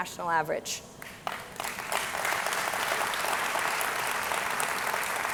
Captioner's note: audience clapping